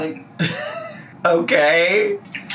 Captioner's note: laughs